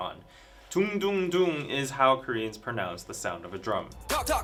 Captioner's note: doong-doong-doong